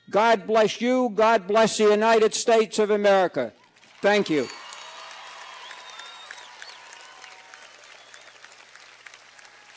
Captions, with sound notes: God bless you, God bless the United States of America. Thank you. (cheers and applause)